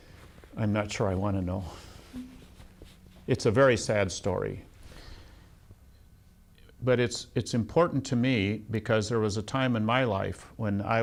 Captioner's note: laughs